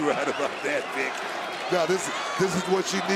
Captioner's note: laughs